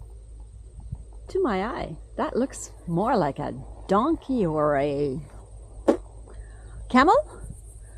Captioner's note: pfft